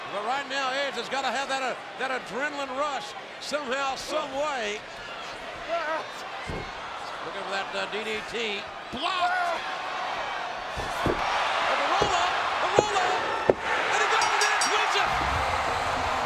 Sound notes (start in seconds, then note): 10.2 body thuds; 11.0 audience cheering